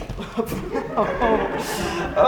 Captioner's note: audience laughs softly